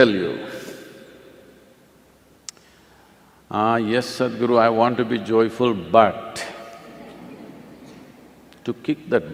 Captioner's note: laughter